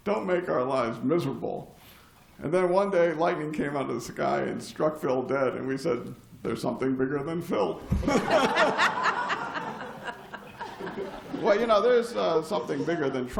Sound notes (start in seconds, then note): 7.9 laughter